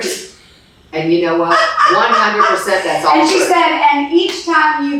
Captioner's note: laughs